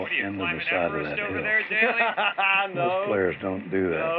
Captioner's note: laughs